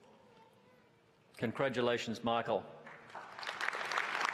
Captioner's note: applause